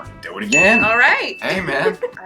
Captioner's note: bell dings